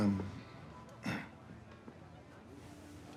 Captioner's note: clears throat